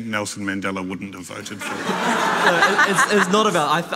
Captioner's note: audience laughing